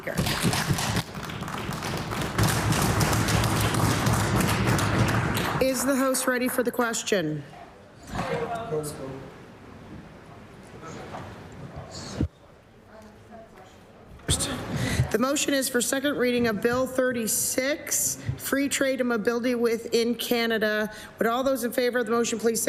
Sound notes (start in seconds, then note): 4.6 applause